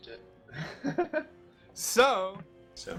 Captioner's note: laughs